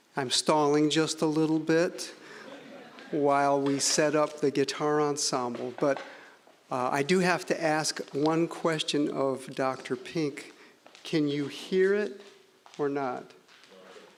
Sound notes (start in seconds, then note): 2.2 audience chuckling